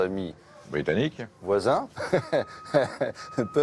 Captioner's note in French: il rit